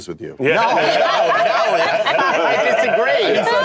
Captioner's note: laughter